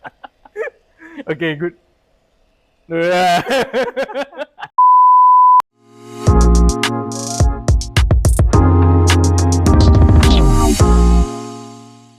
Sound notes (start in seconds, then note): 3.0 laughter